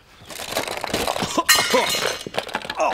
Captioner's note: rattle rattle rattle; clang